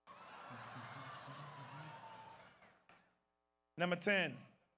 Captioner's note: audience laughs